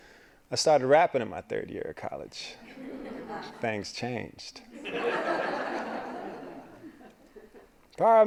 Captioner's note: laughing